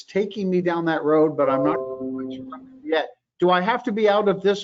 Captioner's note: computer beeps